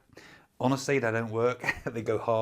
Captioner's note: chuckles